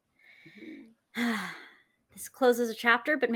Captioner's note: sighing